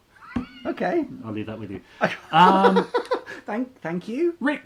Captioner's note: laughing; laughs